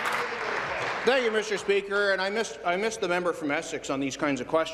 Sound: applause

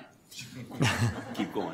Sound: audience laughter

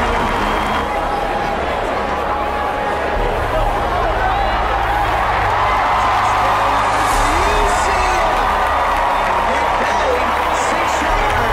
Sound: crowd yells in excitement

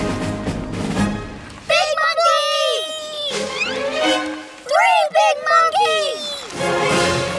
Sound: crying

